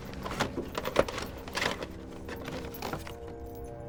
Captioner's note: tapes rattle